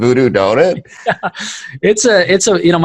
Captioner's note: laughing